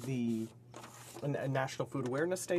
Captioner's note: speaking french